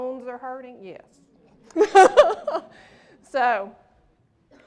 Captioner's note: laughter